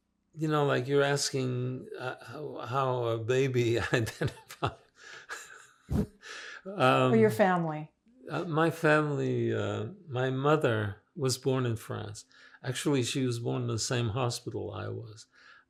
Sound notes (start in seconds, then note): 5.0 laughing